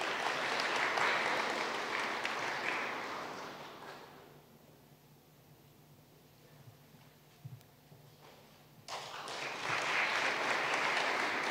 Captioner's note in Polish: oklaski